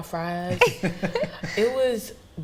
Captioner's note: laughing